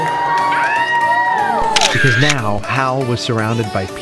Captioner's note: people cheering; people clapping